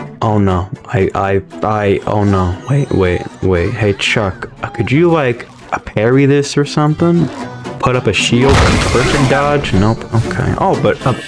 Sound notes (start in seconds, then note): none